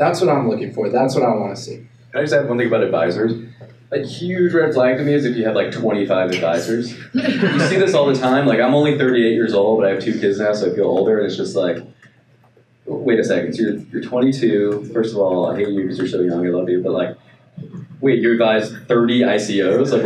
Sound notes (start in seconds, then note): 6.4 laughing